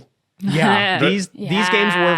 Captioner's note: chuckles